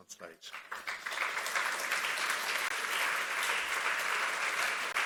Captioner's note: audience applauds